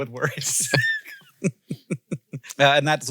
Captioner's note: both laughing